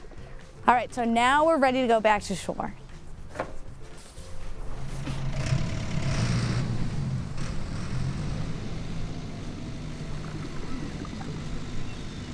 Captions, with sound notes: So, now we're ready to go back to shore. (boat engine roaring)